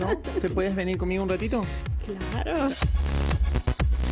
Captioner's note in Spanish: risas